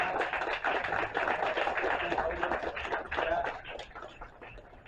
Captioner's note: applause